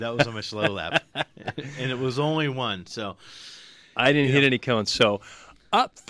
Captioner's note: laughs